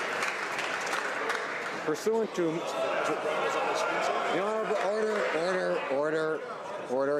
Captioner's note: cheers/Applause